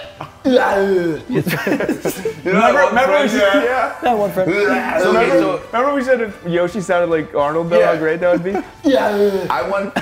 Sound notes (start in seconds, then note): 0.1 laugh